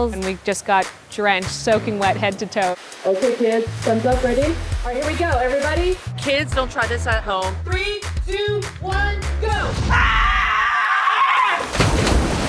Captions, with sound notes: and we just got drenched, soaking wet head to toe. - Okay, kids, sun's up. Ready? All right, here we go, everybody. Kids, don't try this at home. Three, two, one, go! - [screaming]